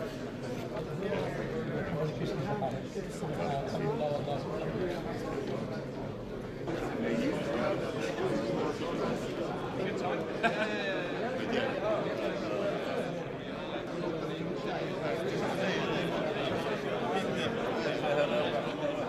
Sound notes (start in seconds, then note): 10.5 laughing